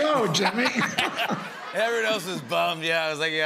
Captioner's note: laughter